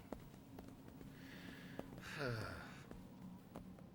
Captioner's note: sighs